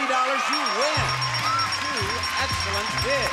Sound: audience cheering; bell dinging; upbeat music

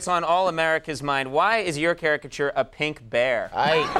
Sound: laughs

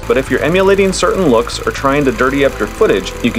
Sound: film projector running

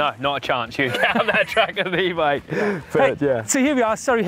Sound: laughs

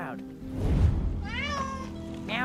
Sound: meows

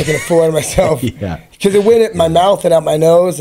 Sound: both laugh

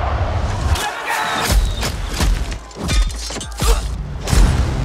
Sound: fighting noises

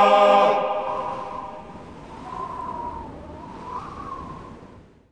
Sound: wind blowing

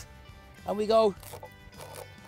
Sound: crunching, slicing sound

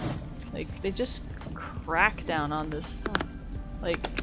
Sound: ice crunching sounds in clip

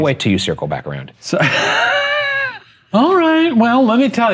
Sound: wheezing

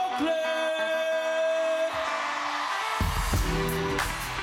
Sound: 6 in the morning repeats over and over

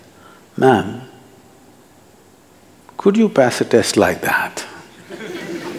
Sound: laughter

